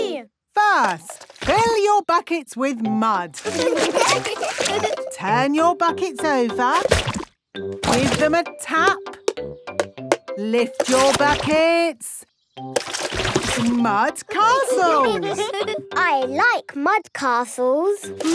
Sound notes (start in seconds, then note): 3.4 laughing; 9.4 taping; 14.4 all giggling